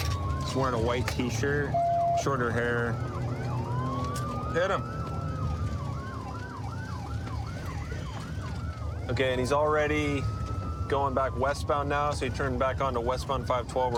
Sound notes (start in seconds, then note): 4.8 sirens wailing